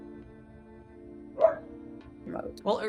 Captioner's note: dog barking